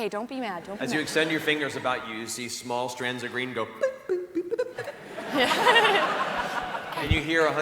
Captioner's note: popping